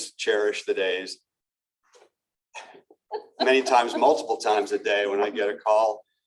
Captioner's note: laughter